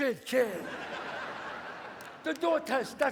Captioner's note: audience laughs